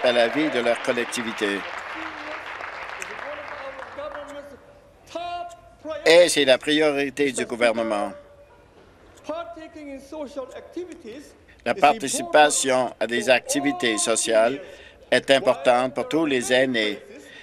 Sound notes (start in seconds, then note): 2.2 applause